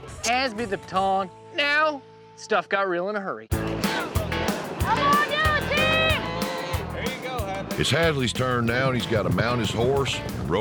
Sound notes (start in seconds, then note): 6.5 calf moos